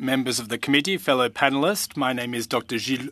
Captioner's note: speaking French